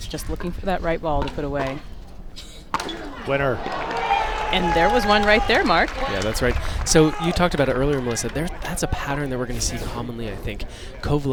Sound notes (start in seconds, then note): 3.0 crowd applauds